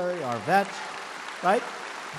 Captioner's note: applause